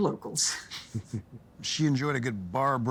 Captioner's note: chuckling